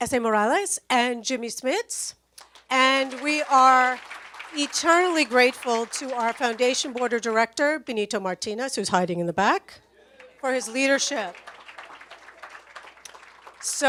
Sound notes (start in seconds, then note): 2.4 audience applauds; 10.1 audience applauds